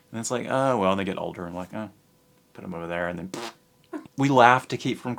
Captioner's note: blows raspberry